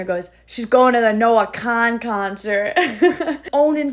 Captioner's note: chuckles